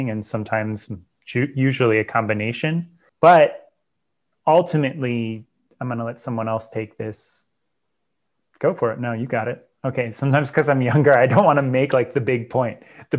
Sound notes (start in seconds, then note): 10.9 laughs